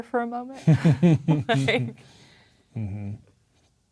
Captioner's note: chuckling